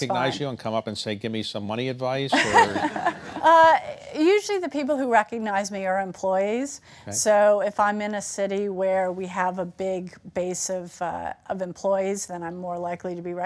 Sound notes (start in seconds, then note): 2.3 laughter